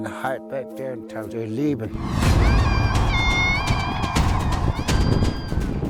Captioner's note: child screaming; dramatic music